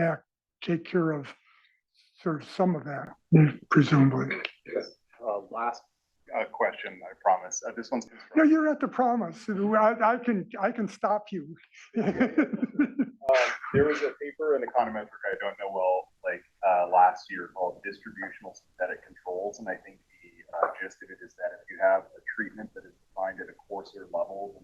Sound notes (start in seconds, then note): 11.8 laugh